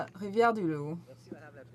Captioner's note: speaking French